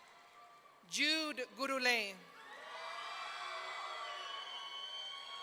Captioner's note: audience cheering